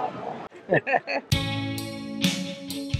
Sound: laughing

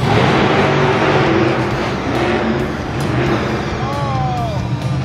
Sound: truck engine revs

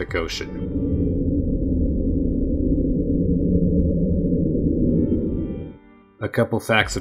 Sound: slow, deep, rumbling sound

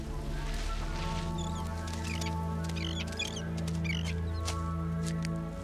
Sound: animal squeaking

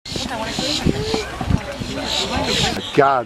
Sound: birds chirping

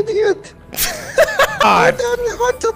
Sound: laughter

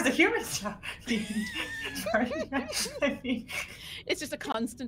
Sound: all laughing

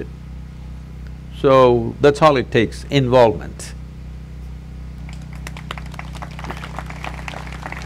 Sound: applause

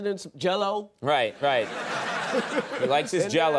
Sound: audience laughing

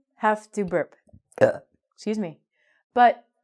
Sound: burps

